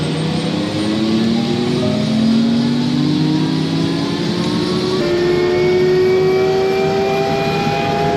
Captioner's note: engine and rotor noise